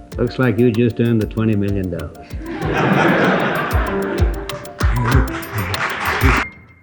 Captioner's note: applause